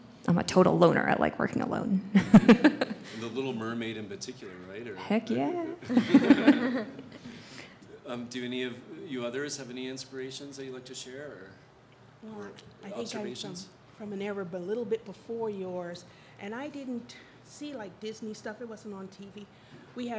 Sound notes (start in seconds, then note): 5.9 audience laughs